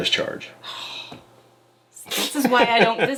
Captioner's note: sighs deeply